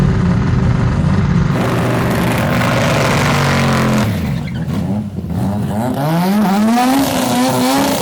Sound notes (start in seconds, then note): 2.0 cars revving